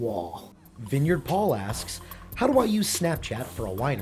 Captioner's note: voiceover